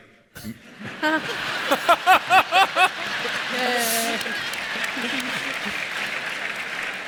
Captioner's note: audience laughs; audience applauds